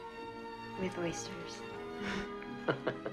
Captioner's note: laughing